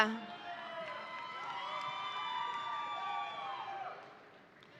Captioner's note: audience applauding